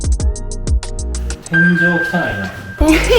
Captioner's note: laughs